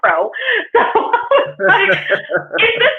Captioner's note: laughs